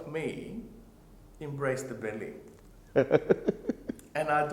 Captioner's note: laughing